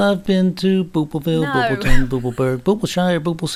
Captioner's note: wheezes